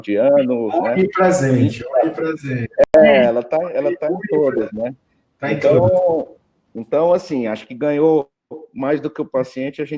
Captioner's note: multiple voices